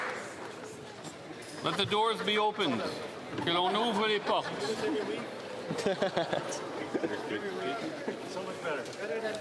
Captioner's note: cheering and Applause